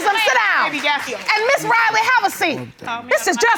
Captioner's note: muttering